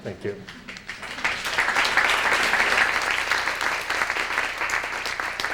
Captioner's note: applause